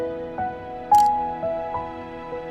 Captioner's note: camera click